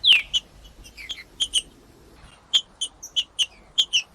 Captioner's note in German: trinca ferro cantando; trinca ferro cantando